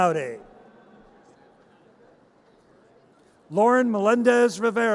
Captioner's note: audience cheers